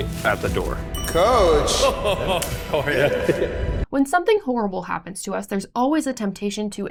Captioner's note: laughter